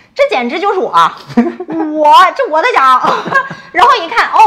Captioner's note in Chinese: 哈哈